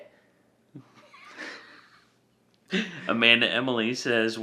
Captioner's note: laugh